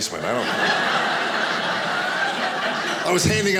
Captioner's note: audience laughing